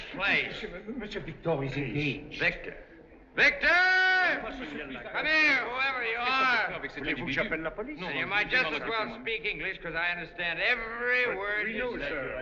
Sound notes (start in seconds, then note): 6.2 chattering In French